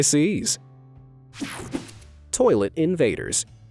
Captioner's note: graphic whooshing